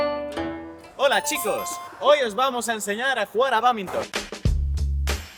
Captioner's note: in spanish